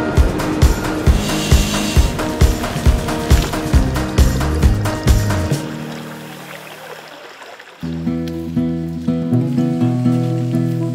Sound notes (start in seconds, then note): 3.7 creek babbling